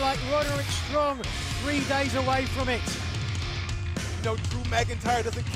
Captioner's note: none